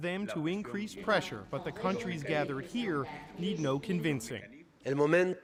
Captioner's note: speaking spanish